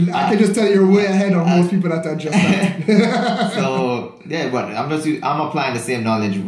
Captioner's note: both laughing